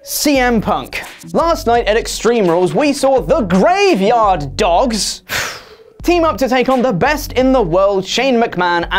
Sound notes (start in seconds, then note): 5.2 sigh